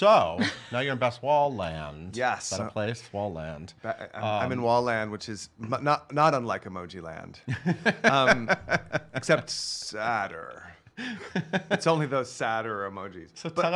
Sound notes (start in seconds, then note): 7.5 laughing